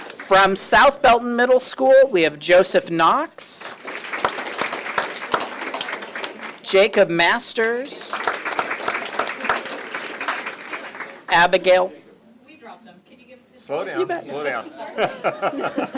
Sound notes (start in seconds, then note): 0.0 applause; 7.6 applause